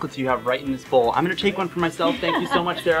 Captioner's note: background laughter